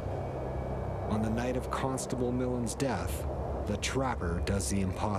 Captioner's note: voiceover